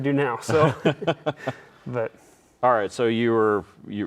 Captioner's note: laughing